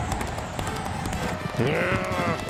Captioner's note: growl